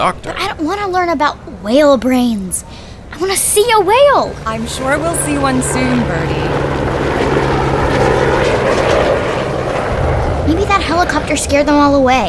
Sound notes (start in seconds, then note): 6.6 helicopter